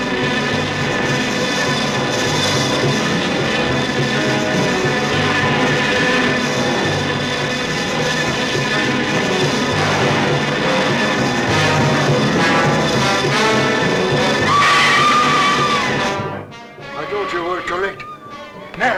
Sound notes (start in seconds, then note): 0.0 buzzing; 0.2 dramatic music; 14.4 screaming